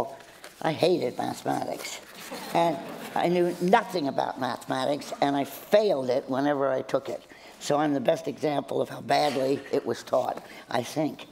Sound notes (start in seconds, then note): 1.9 laughter